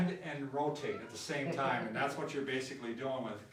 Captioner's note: laughs